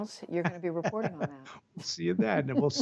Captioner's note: laughter